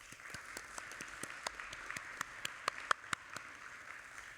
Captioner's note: audience applauding